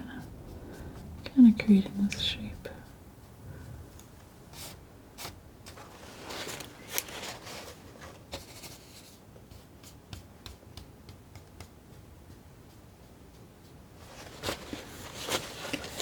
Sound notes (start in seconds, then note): 4.5 scratching